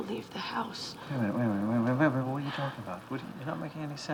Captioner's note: stuttering